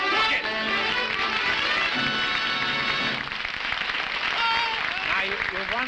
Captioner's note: trumpet flare; applause